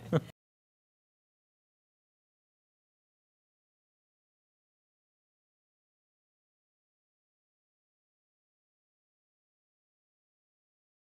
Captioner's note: laughs